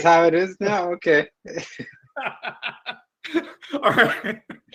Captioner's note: laughs